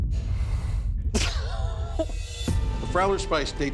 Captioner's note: laughter